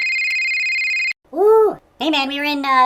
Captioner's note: phone ringing